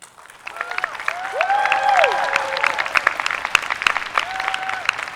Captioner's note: audience applauding